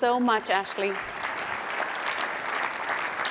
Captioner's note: applause